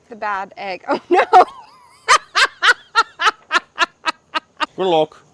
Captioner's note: laughs